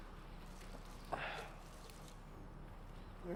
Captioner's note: sighs